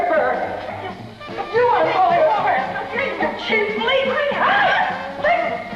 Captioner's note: incoherent screaming